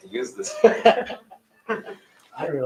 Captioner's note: laughter